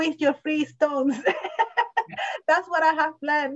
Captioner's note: laughs